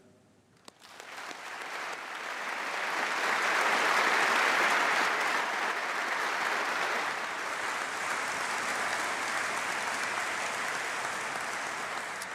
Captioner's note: applause